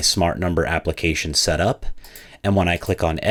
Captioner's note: computer mouse clicking